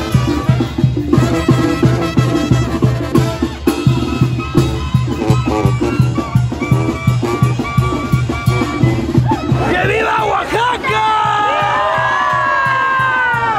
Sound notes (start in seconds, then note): 9.1 crowd shouts; 9.5 in Spanish